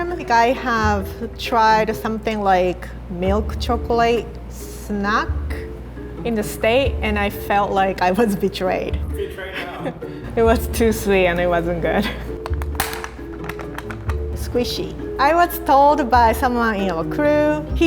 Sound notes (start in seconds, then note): 9.3 laughs; 12.4 plastic cracks